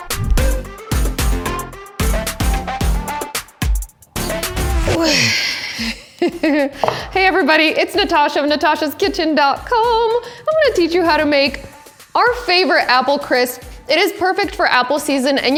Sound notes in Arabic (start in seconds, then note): 0.0 الموسيقى متفائلا; 4.2 يضحك